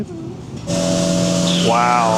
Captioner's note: ambient sound reverberating